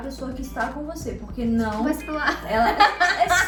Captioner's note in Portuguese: Risos